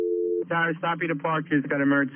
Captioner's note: phone line buzzing